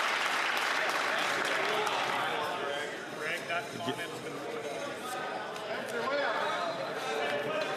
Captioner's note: some Applause